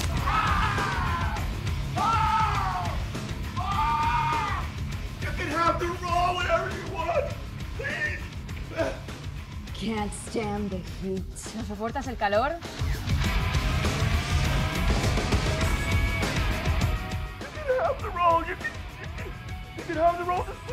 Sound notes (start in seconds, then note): 0.1 Goldstone screaming; 8.7 grunts; 11.9 Valeria speaks Spanish; 12.6 heavy rock music; 17.9 crying